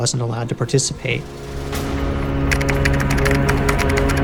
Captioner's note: keyboard clicking